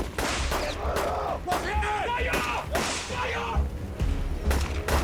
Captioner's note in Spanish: Disparos; Gritos de Gallo